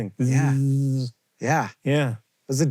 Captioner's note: JOHN buzzes